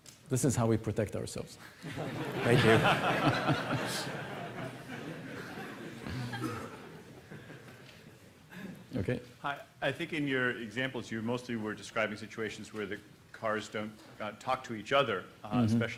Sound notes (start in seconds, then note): 1.8 laughter